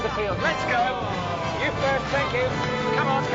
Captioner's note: moaning